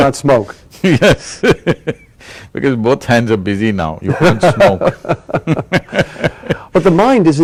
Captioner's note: laughter; laughs